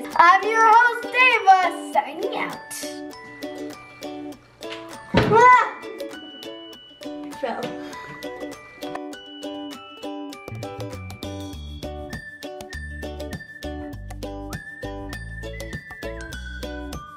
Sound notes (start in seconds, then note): 5.2 crashes; 9.4 uplifting ukulele music